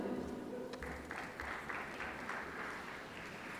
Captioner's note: applause